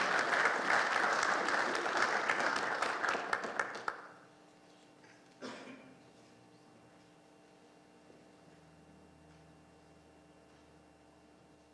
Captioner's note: applause